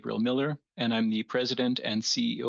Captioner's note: speaking French